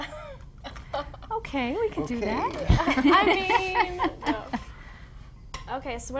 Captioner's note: laughs